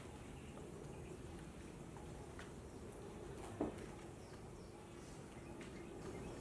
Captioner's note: birds chirping